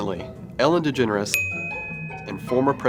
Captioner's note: ding